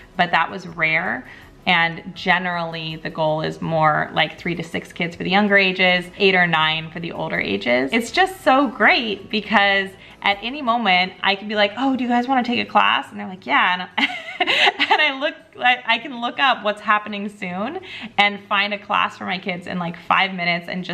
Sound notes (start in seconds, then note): 14.0 laughing